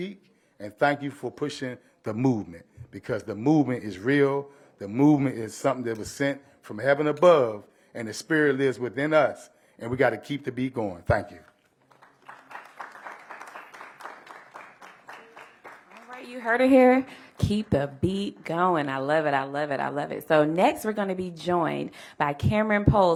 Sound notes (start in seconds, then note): 14.5 applause